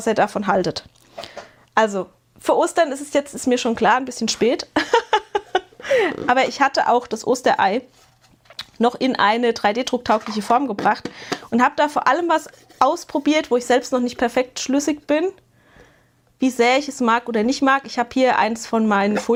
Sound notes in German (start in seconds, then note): 4.7 gelächter